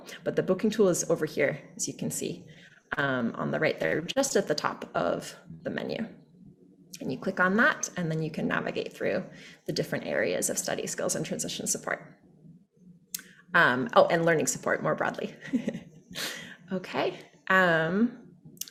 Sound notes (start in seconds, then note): 15.4 chuckles